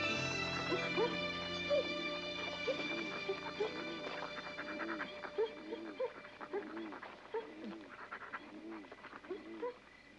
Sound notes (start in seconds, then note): 1.4 dogs whimpering